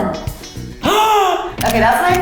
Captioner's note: gasps